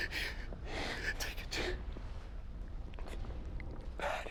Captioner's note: crying